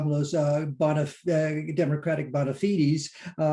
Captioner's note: murmurs